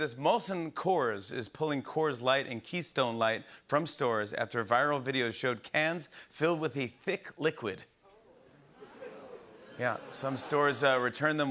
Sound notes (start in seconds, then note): 8.8 audience groans